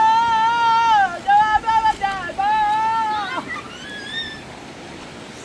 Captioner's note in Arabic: صراخ